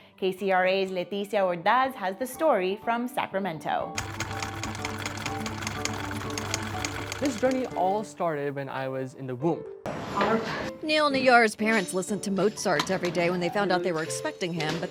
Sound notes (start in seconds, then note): 3.9 machines clicking; 4.0 upbeat classical music